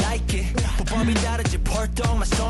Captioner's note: gasp